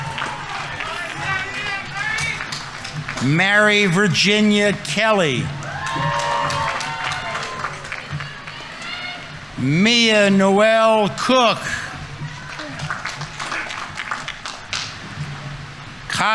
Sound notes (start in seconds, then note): 5.7 audience applauding; 5.7 audience members cheering; 12.0 audience applauding; 12.0 audience members cheering